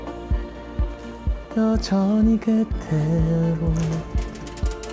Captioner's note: humming again